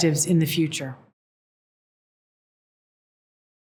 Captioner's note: no speech